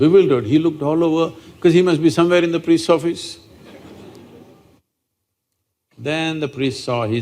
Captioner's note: few Laugh